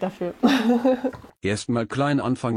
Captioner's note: laughs